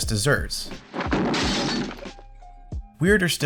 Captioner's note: crash